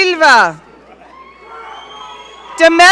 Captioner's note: audience cheering